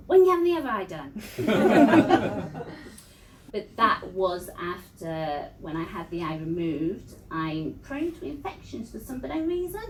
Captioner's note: laughter